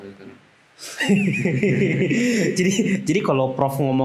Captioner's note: laughter